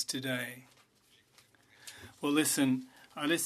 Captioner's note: speaking French